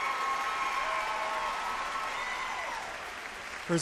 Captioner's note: cheers and applause